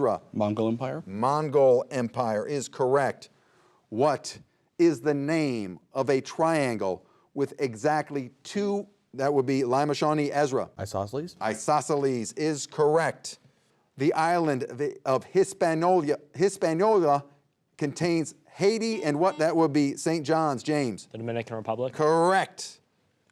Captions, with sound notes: - Mongol Empire. - Mongol Empire is correct. What is the name of a triangle with exactly two... That would be Lima Shawnee, Ezra. - Isosceles. - Isosceles is correct. The island the of Hispaniola contains Haiti and what... (buzzer beeps) That would be St. John's, James. - The Dominican Republic. - Correct.